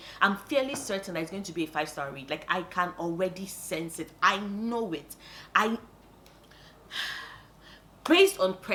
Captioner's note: sigh